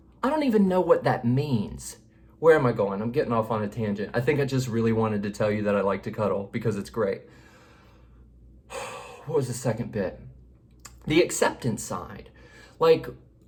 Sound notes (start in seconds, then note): 8.7 sighs